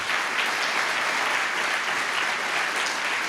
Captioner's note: applause